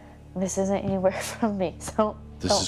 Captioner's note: chuckles